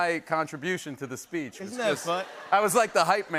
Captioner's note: laughter